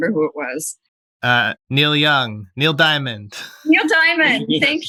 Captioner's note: laughter